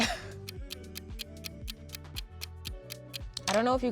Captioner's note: clock ticking